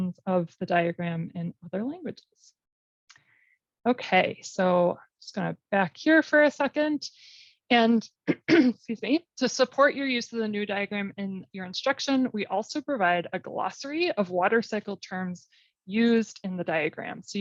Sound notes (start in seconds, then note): 8.2 cough